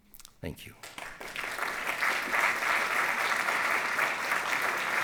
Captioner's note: applause